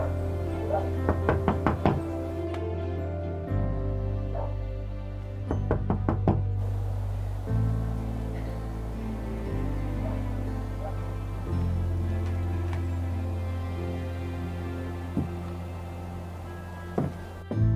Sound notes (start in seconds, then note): 0.6 dog barking; 1.0 knocking on door; 5.6 knocking on door